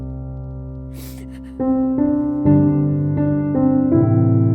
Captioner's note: Serelda sobs